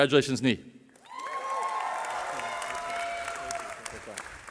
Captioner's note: cheering